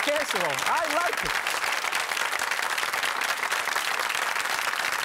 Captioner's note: audience claps